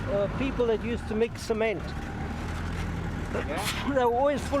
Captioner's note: sneezes